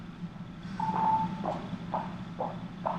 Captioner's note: phone beeps